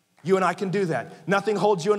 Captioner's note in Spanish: la congregación aplaude